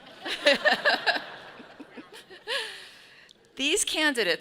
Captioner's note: all laughing